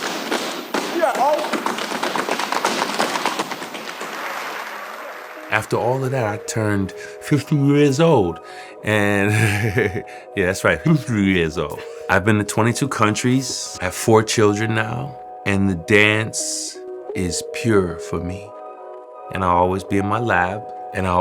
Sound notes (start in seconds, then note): 4.1 applause; 9.0 laughs